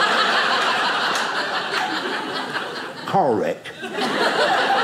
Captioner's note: audience laughing